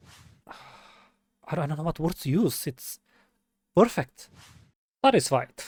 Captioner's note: sigh